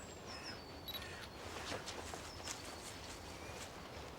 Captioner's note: camera beeping